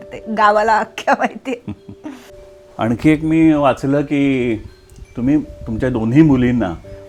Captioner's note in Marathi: हास्य